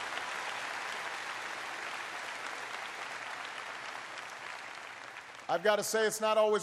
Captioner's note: applause